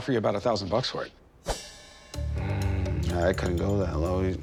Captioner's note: grumbles